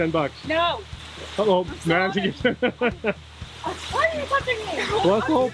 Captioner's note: laughs